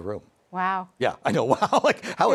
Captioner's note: chuckles